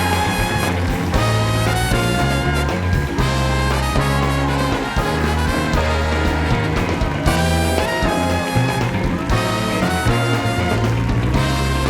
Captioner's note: cheers and applause